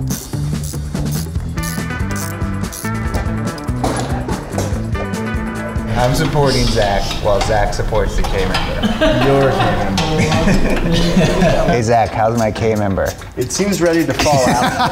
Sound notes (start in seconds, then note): 7.7 all laughing; 14.2 laughs